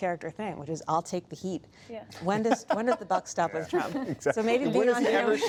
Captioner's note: laughter